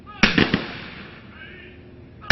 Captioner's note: guns firing